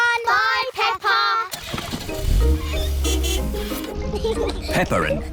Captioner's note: car starts; toots horn